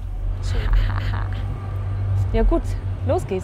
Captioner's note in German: lacht verschmitzt